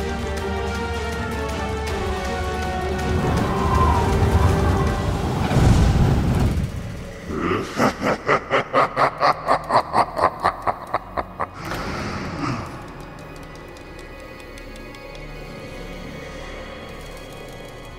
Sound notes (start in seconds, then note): 6.0 wind blowing; 10.1 laughs